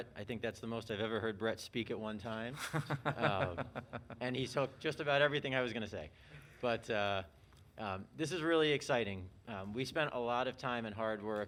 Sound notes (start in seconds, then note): 2.6 laughing